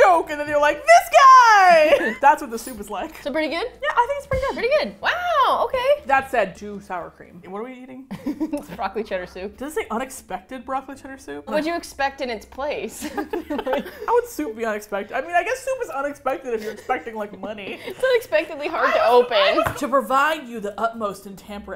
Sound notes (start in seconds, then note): 8.1 laughs; 13.0 both laugh